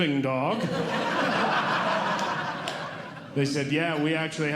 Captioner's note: audience Laughing